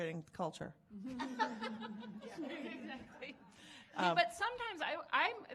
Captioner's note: laughing